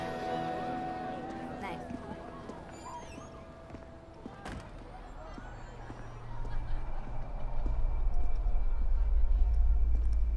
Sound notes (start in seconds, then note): 4.4 door closes; 6.6 ominous music